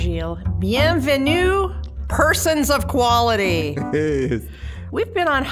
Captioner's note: chuckling